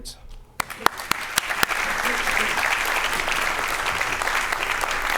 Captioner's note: applause